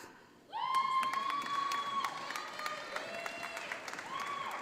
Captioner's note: audience applauding